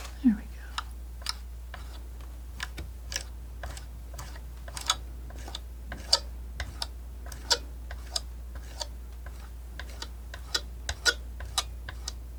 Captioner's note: tapping